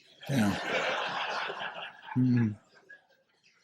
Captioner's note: laughter